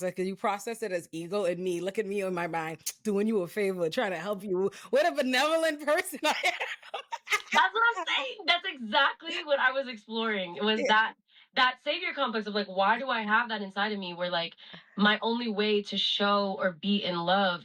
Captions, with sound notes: You process it as ego in me, looking me in my mind, doing you a favor, trying to help you with a benevolent person. (laughs) That's what I'm saying. That's exactly what I was exploring. It was that savior complex of like, why do I have that inside of me where like, my only way to show or be in love